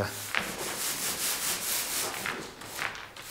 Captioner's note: soft crackling